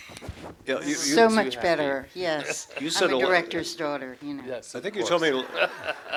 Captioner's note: laughter